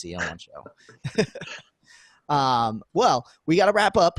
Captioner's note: laughing